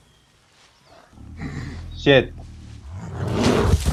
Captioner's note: bear sounds